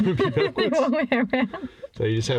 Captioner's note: both laugh